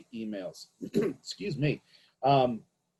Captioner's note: clears throat